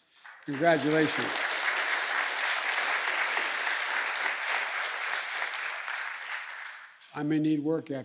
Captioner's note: applause